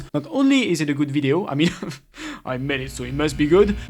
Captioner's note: chuckle